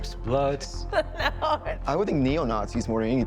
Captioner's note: laughs